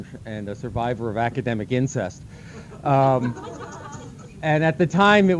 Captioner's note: laughter